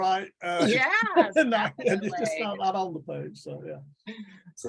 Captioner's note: chuckles